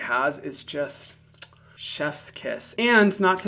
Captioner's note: kisses air